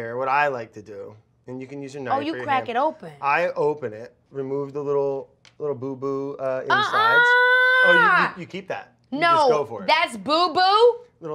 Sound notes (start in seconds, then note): 6.7 Keke shouts